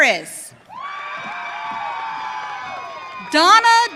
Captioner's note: audience cheering